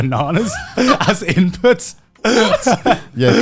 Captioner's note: Joey laughing